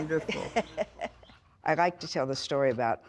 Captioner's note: laughing